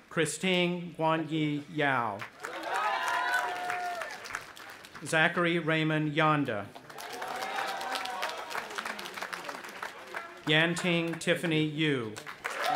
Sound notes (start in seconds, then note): 2.3 audience applauding and cheering; 6.8 audience applauding and cheering; 12.1 audience applauding and cheering